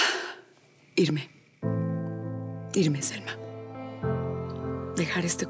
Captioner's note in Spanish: exhala